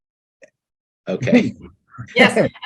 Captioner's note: men chuckling